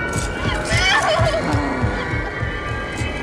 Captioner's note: whining and sobbing; Lester groans